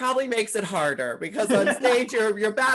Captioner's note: laughing